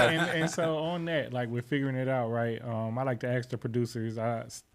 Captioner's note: laughing